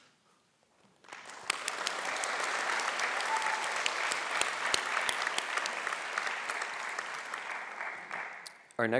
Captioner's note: applause